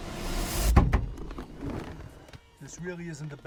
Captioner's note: loud thump